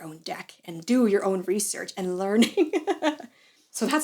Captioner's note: evil laugh